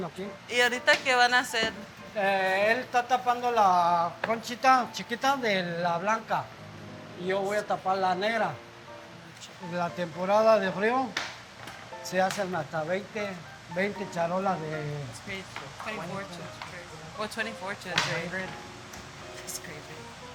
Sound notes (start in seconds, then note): 0.0 foreign language